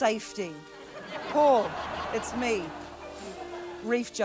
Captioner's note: blows